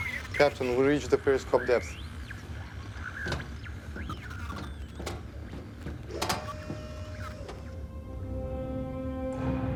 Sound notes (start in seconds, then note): 2.7 thud sound